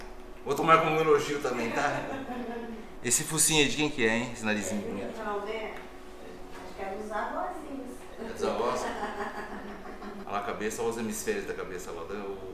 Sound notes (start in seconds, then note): 8.4 laughs